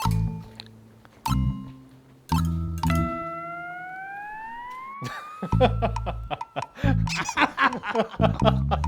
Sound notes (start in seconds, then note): 5.0 chuckling; 8.6 soulless fake laughter continues